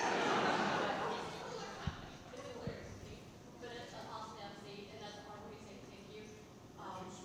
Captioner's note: laughing; speaking softly